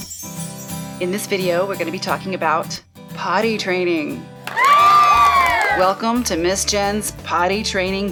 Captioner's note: cheers